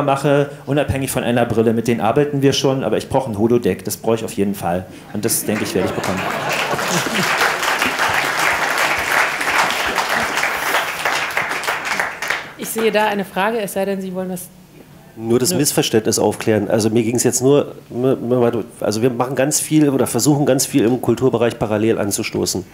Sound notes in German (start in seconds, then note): 7.2 längerer Applaus